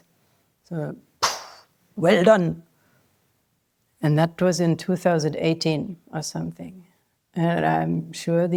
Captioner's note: smacking noise